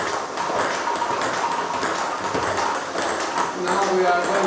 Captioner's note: ball ping pong hitting continues